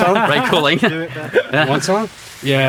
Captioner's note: laughs